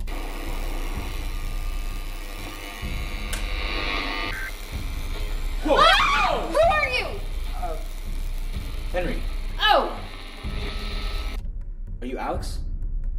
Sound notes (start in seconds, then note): 0.1 radio static- garbled broadcast; 5.6 screams